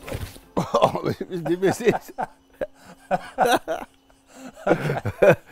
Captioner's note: laughing; more laughing